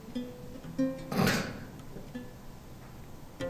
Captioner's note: laughs